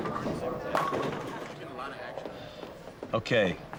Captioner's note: bowling pins crash in background